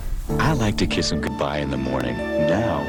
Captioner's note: video rumbling; voiceover